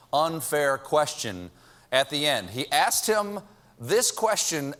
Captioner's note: none